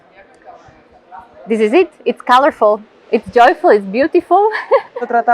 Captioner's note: laughs